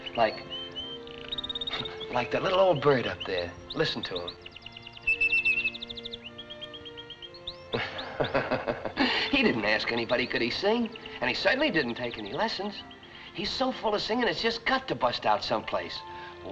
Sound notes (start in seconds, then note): 4.5 whistles